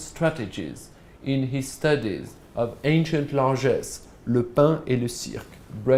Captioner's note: non-english speech